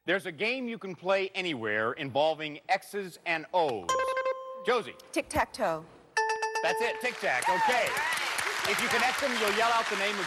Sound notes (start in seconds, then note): 3.9 buzzer rings; 6.2 bell rings